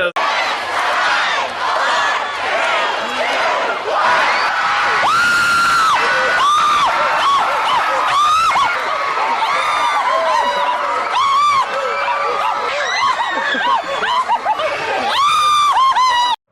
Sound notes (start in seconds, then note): 0.1 crowd; 4.6 screaming; 8.9 so much screaming